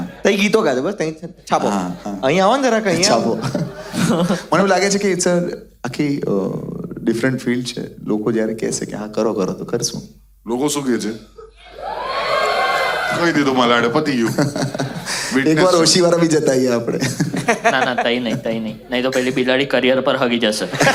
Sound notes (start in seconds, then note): 11.9 crowd applauding